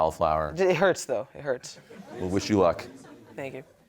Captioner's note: audience laughing